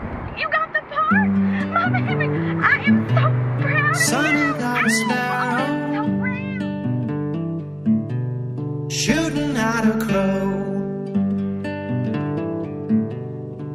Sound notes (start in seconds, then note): 4.9 hoots